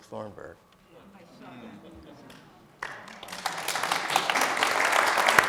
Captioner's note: audience applauding